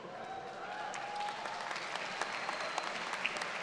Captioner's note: audience claps